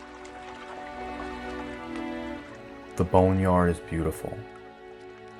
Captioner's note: water Lapping; somber Music; water Lapping